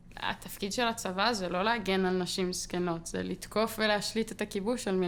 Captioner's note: speaking foreign language